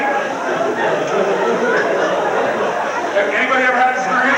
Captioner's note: crowd laughs